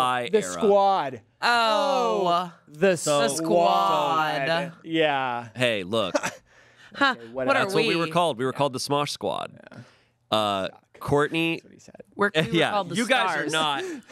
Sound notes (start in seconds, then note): 6.6 scoffs